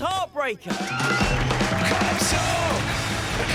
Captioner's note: cheering